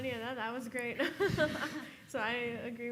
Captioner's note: laughing